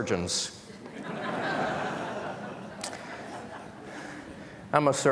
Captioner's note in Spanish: Risas